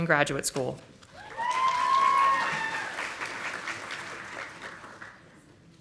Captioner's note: audience applauding